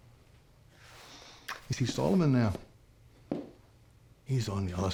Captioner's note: scottish accent